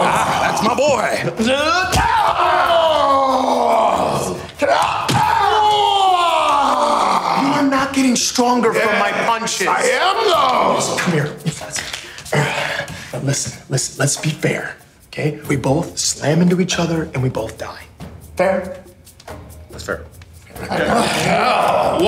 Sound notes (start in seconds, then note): 0.0 men yelling; 1.7 men yelling; 20.5 men grunting